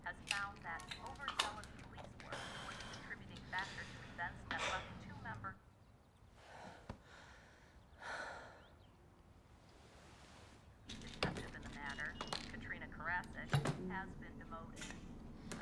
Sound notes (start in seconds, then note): 8.2 Bryn exhales sharply